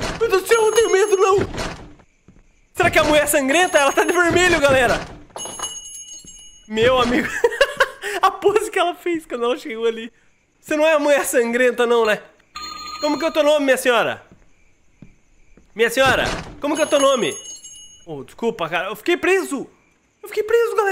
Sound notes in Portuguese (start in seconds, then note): 7.2 risos